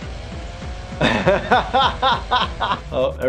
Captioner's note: laughing